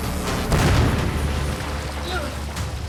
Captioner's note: explosion